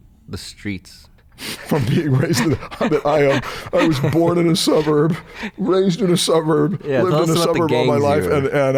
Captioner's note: laughter